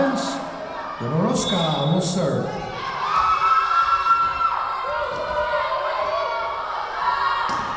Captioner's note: whistle blowing